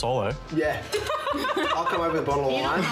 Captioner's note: laughs